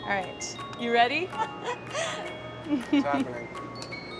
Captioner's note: laughing